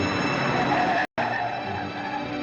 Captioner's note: brakes screeching